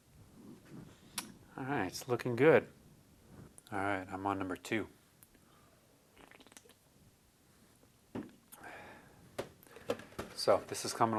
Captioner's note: sip